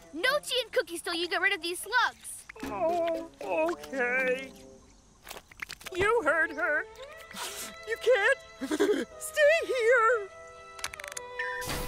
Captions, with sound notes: No tea and cookies 'til you get rid of them! Oh... Okay... You heard her. (Sniffles) You can't... (Chokes up) ...stay here.